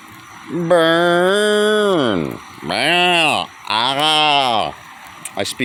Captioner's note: braying like a goat